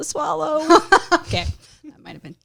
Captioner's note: laughs